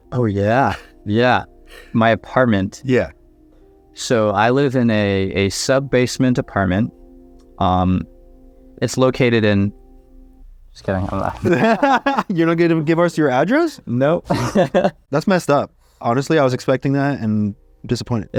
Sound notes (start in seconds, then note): 11.0 both laugh; 14.2 laughs